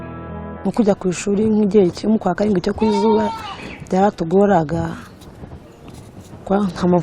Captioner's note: speaking in Kinyarwanda